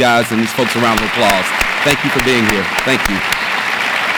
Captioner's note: audience applauds